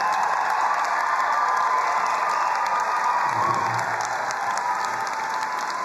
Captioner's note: crowd cheering and applauding